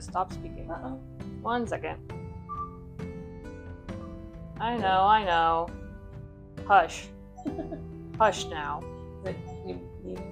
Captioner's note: annoying camera beeping sounds in the background